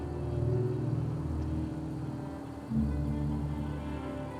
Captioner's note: car engine humming